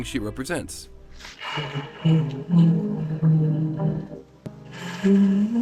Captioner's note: quietly humming